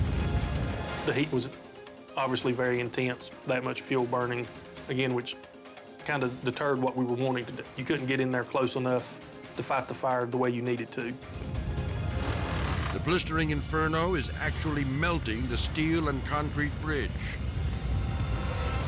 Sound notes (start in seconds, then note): 0.0 edgy dramatic music; 11.3 dramatic music; 11.4 fire roaring; 17.0 dramatic music